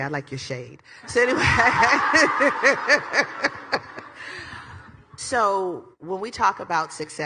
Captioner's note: laughs